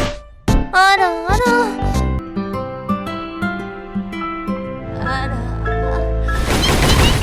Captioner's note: gentle music; cartoon character speaking foreign language; gun firing